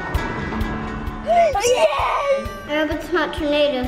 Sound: upbeat guitar music; children cheer

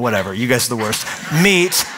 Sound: laughter

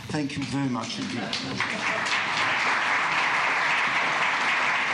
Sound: applause

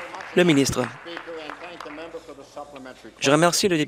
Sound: applause

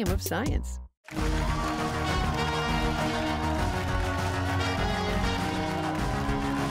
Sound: cheers and applause

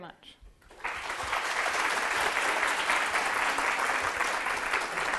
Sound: audience applauding

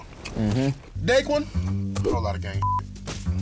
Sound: beep

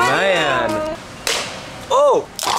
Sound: cracking

